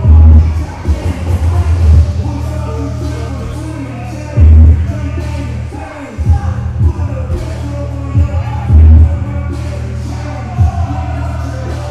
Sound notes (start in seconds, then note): 0.1 hip-hop music continues; 3.8 yelling